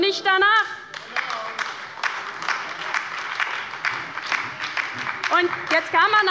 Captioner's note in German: Beifall bei der LINKEN und der SPD